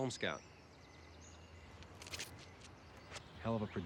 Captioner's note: bird chirp